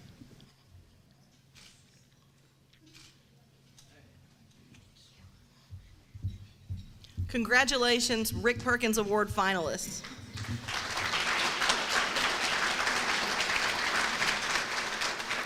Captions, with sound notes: Congratulations, Rick Perkins Award finalists. [APPLAUSE]